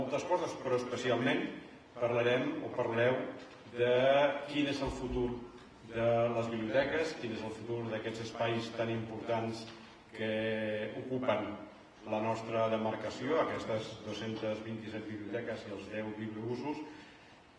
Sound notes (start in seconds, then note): none